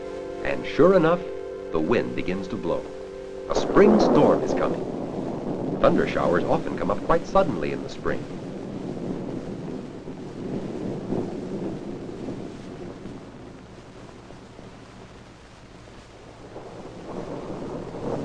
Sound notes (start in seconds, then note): 8.5 thunder rumbling; 18.0 thunder rumbling loudly